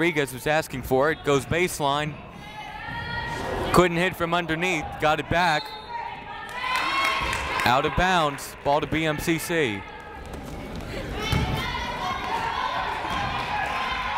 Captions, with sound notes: Rodriguez was asking for it, goes baseline, couldn't hit from underneath, got it back. Out of bounds, ball to BMCC. (yelling)